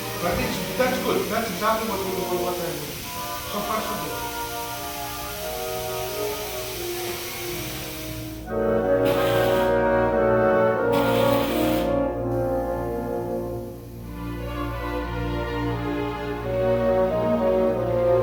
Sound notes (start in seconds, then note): 5.2 moving orchestral music; 9.3 torch hissing